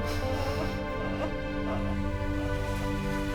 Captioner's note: gasping